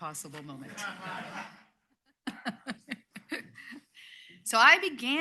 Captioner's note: laughter